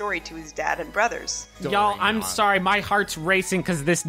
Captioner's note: chatter